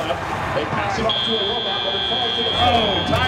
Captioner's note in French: buzzer